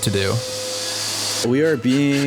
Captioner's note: vacuum cleaner buzzing